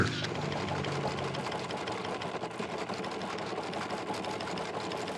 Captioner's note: printing press rumbling